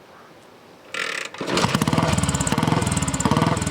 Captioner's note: engine roars